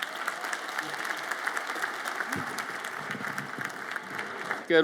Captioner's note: audience applauds